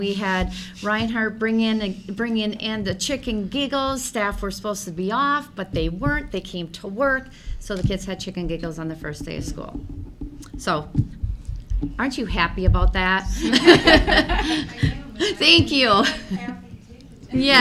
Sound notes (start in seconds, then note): 13.4 everyone laughs